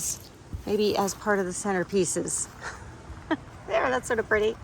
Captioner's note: laughs